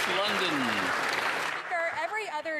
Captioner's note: some Applause